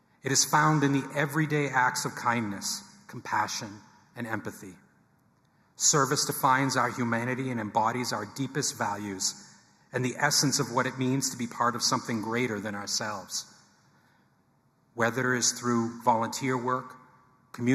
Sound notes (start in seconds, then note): none